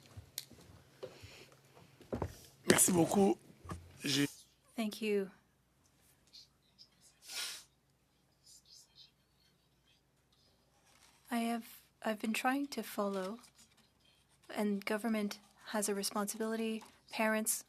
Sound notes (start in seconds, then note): 3.4 speaking French